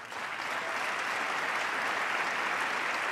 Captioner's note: applause